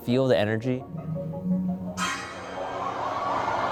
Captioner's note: humming; crowd gasps